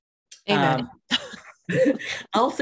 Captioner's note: laughing